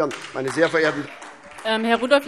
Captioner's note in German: Beifall SPD und CDU